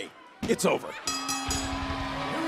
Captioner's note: bell ringing